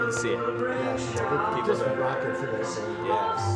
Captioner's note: chatter